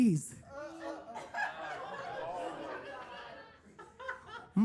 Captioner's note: attendees laughing